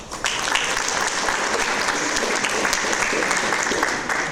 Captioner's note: audience applause